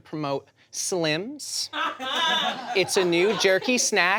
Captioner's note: audience laughs